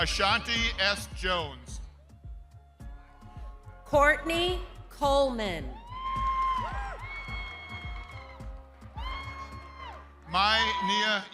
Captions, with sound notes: - Courtney Coleman. (crowd cheering) - Mai Nia Yang. (lively music) - Sasha Shanay Bailey.